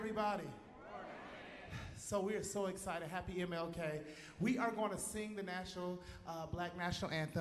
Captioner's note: cheers and applause